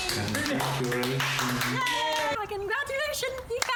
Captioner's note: cheering